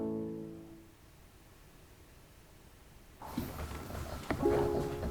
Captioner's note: music stops